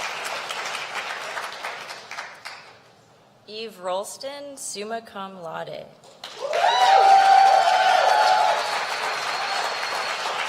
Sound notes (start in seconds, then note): 2.9 applause